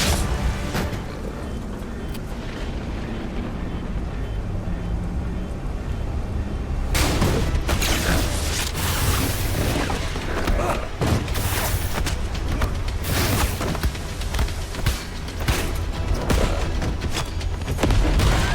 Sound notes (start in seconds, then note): 0.9 thud sound; 2.9 thunder rumbling; 6.9 loud banging; 6.9 laser blasting; 14.9 dramatic music